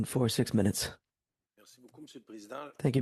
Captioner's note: speaking French